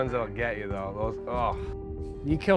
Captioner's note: scoffs